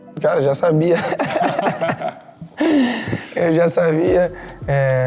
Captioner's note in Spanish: Risas